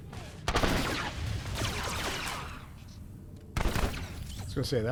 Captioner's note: gun fires; gun fires